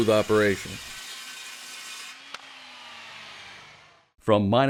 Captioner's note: saw cutting; voiceover